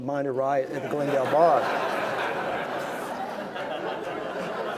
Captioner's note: laughing